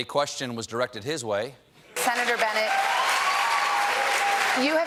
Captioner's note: applause